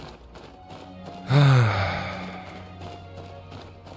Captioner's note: sigh